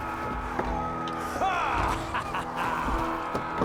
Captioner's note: laughs